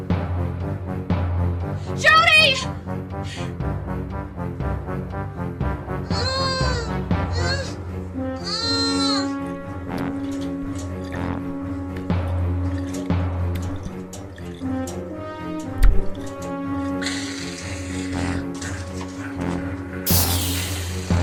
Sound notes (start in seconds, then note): 4.4 muffled cry; 8.6 sloshing of fluid; 12.7 liquid splashing; 16.8 sprayer hisses; 16.8 growl